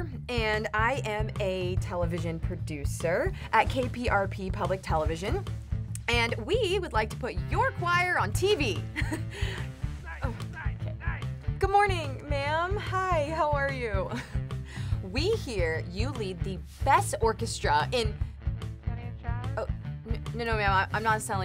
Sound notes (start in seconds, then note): 10.0 Mr. Krauss chattering angrily